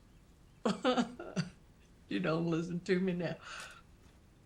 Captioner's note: sobs